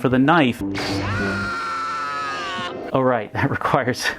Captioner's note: lightsaber noise; screams